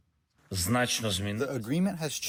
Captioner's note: through translator